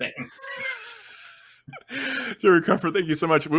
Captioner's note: laughter